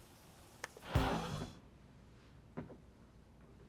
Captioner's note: air rushes